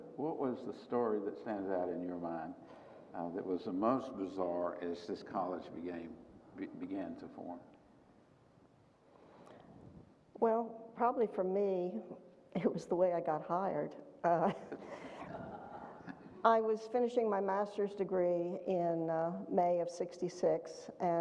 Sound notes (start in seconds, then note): 14.6 audience chuckles